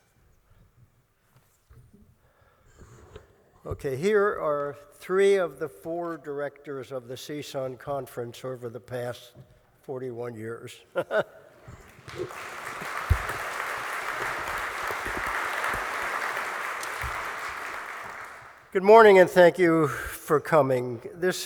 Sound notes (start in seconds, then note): 11.2 laughs; 11.6 applause